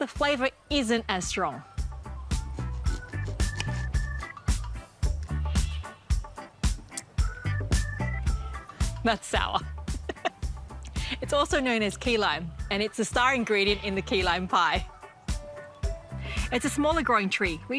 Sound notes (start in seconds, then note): 9.9 laughs